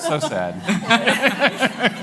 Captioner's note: laughter